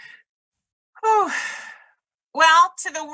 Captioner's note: sighs